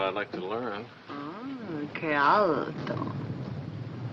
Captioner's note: speaking in italian